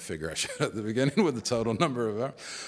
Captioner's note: laughs